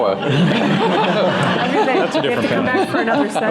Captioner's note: laughter